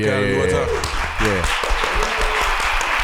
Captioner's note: applause